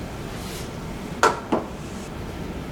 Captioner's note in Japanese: コンッ：コップを机に置く音